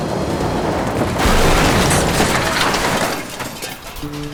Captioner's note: offscreen crash